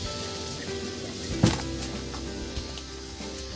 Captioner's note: bump